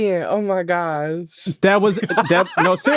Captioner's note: laughs